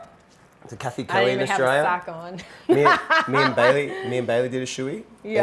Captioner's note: laughs